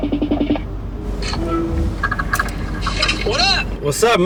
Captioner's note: FaceTime rings; phone chimes